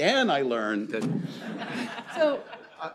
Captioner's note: laughter